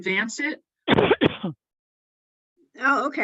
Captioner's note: participant coughs